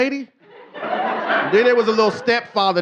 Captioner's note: audience laughing